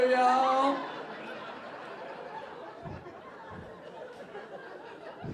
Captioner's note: audience laughing